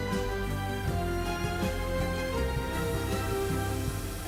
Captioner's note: water splashing